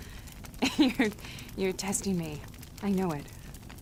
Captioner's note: chuckling